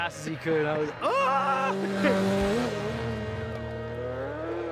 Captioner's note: laughs